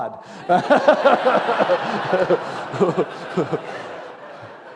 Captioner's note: laughter